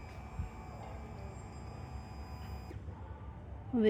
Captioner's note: electronic whir